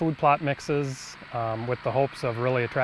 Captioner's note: 4-wheeler hums